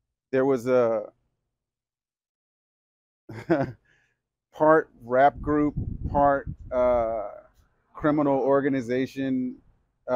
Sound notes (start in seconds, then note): 3.3 chuckles